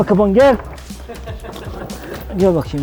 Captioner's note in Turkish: gülüşmeler